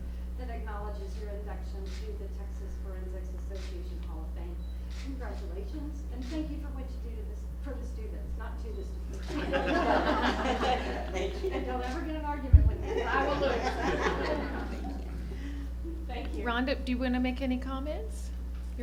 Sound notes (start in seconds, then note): 9.2 laughter; 14.8 laughter